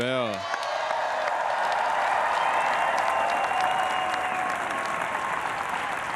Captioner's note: everyone cheering and applauding